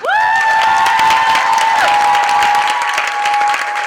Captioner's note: applause